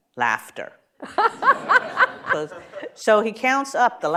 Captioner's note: laughter